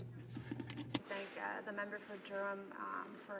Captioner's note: speaking French